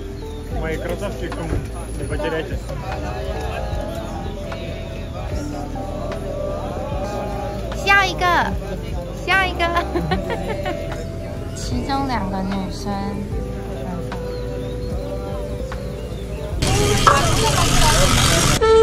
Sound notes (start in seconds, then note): 3.1 very hot laughter